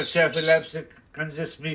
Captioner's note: father speaking foreign language; mama speaking foreign language